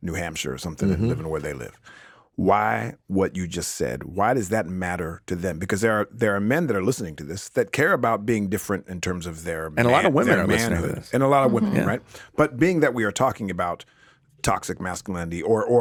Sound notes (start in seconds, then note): 9.7 chattering